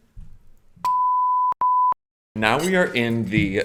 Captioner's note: electronic beeping